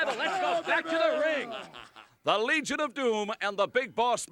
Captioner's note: laugh